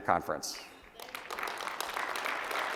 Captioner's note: applause